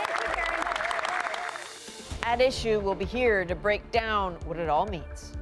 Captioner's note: applause